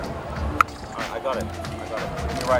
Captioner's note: tongue click